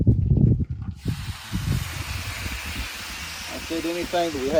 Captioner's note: wind blowing; griddle sizzling